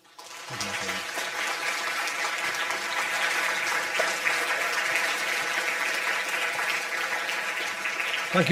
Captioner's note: audience applause